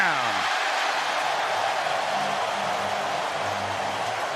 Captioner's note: cheering